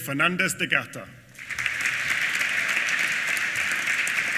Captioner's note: applause